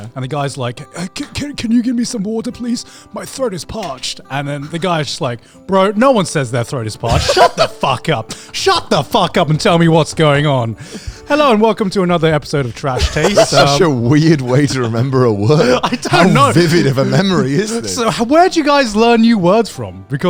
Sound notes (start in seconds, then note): 7.0 laughs; 12.9 laughs; 16.3 chuckles